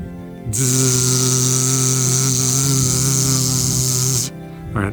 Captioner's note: buzzes immitating a drone